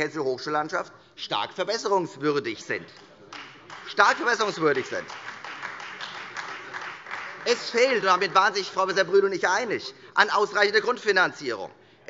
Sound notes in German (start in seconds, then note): 3.2 Beifall Freie Demokraten, SPD und DIE LINKE